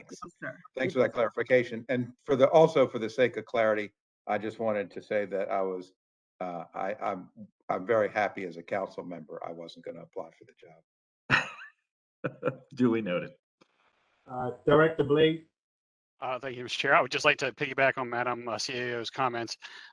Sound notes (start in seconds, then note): 11.3 laughter